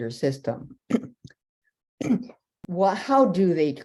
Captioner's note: clearing throat